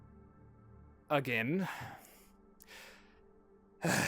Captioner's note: sighs